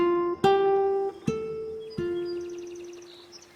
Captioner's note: birds chirping